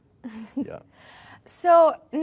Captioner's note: laughing